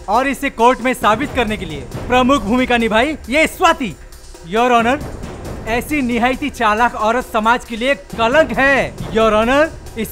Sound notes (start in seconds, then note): none